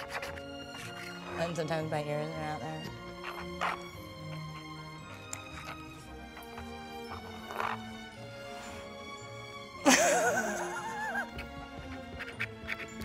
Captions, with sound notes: And sometimes my hair is around there. [pen scratching] [laughs]